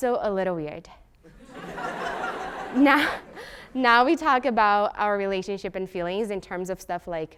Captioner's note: laugh